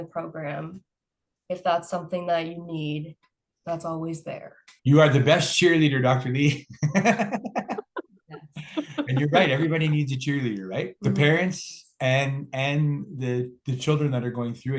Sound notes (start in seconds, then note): 6.6 laughs